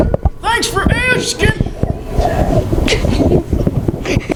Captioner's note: chuckles